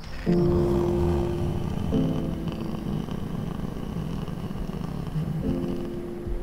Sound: martin moaning

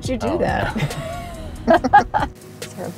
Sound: laughing

